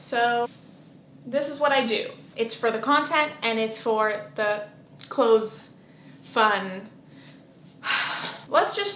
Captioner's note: sigh